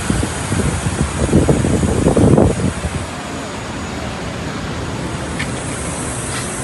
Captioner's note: wind blowing